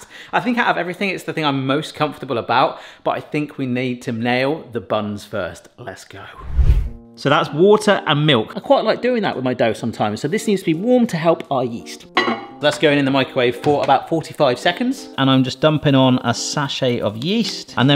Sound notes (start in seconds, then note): 6.3 screen whooshing; 12.1 bowl clanging